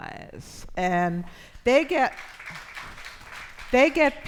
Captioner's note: audience applauds